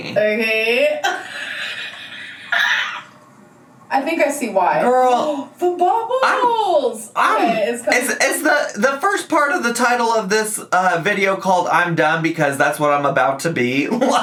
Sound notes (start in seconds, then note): 0.0 laughing; 5.5 gasps; 13.9 laughing